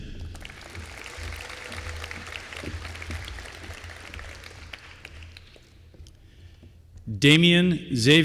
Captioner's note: applause